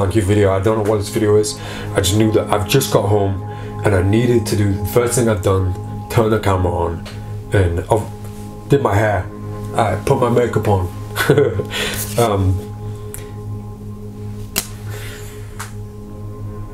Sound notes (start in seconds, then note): 11.2 laughs; 14.1 tense music